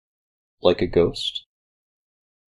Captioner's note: none